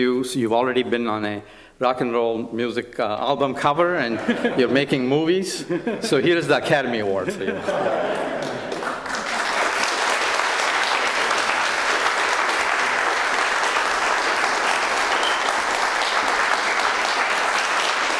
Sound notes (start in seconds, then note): 7.1 laughter; 8.7 applause